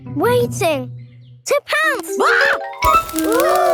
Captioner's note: screams